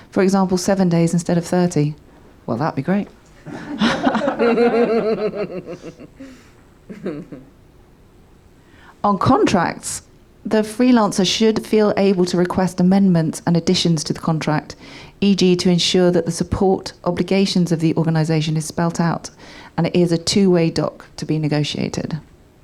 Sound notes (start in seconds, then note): 3.4 audience laughing